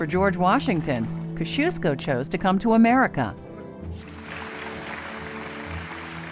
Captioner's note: applause